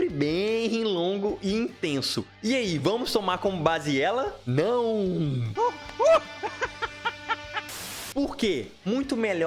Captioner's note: Joker laugh 3:02